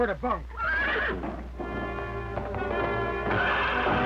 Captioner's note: whinnying